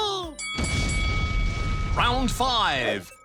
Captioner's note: bell dings